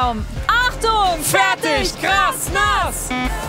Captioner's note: Startsignal